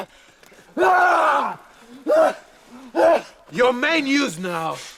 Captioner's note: Gunnar shouting